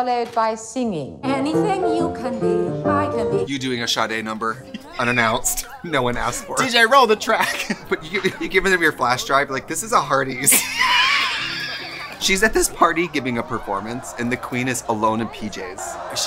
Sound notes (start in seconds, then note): 10.8 laughs